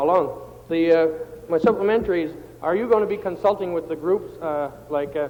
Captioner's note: table Pounding